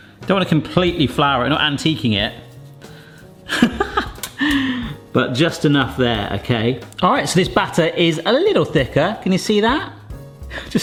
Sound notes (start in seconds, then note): 3.4 laughs